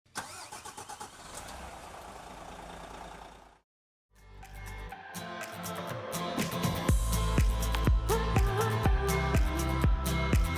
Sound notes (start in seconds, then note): 0.0 engine start; 4.3 upbeat music